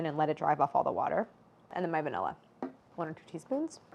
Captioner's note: none